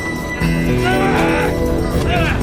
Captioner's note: Tommy grunting